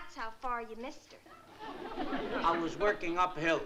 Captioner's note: laughter